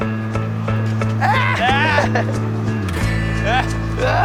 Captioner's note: laughs